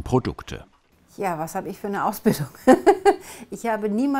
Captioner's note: she laughs